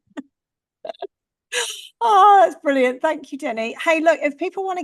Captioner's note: laughs